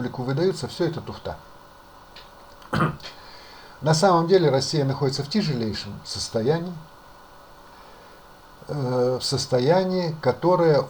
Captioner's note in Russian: откашливается